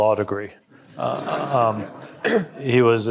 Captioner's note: audience laughing